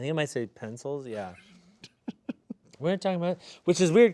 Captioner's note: snickering